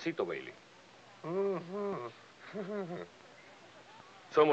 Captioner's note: laughs